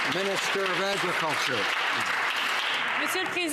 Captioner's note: some Applause